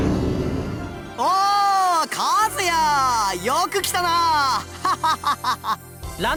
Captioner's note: laugh